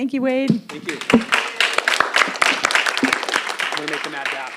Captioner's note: audience applauds